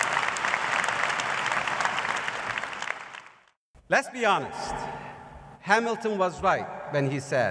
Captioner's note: applause